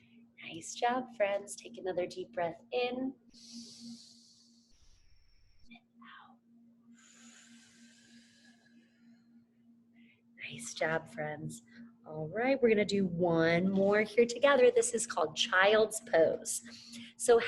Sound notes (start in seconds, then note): 3.4 inhales; 6.9 exhales